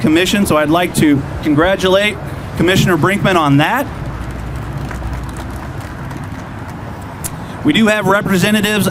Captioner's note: clapping